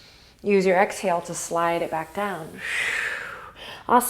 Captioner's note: inhale; exhale